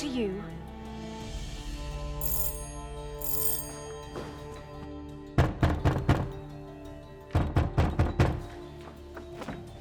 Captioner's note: A hard thumping at the door